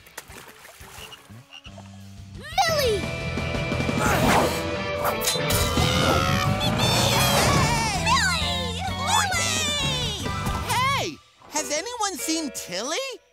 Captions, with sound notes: Millie! [cheering] -Millie! -Lily! Hey, has anyone seen Tilly?